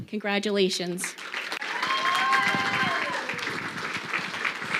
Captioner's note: crowd clapping